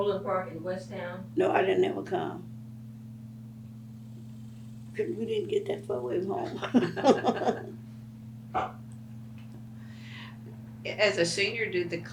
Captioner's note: laughs